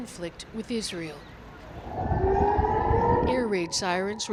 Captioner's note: air raid siren